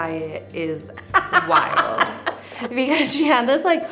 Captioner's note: laughs